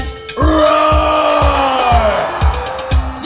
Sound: audience roars

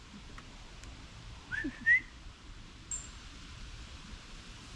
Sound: whistles

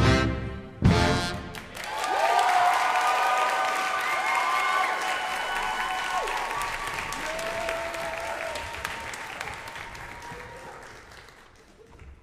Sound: audience applause

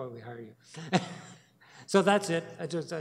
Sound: chuckles

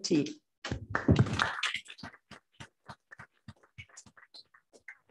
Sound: applause

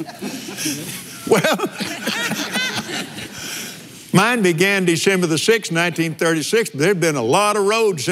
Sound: laughs

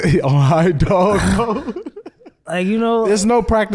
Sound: laughing

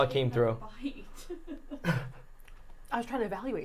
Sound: laughing

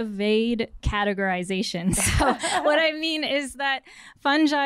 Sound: laughter

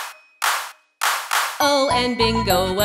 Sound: clapping

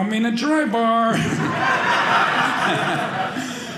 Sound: audience laughing

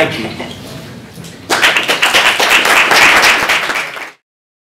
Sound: applause

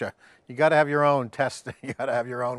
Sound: laughing

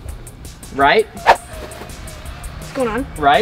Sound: air whistling

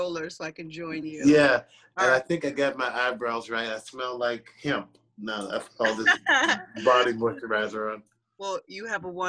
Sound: laughter

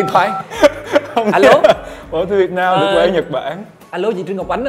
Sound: laugh

